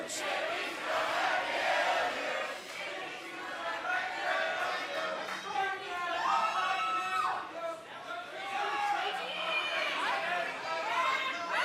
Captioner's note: crowd cheering